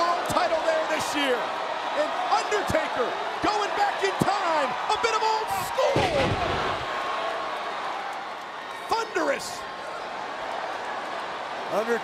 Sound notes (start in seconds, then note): 6.7 crowd cheering